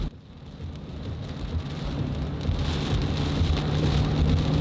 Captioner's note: rain patters